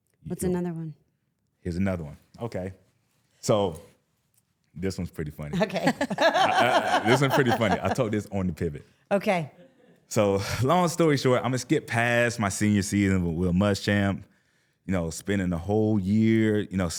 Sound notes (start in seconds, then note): 5.5 laughing; 5.6 laughs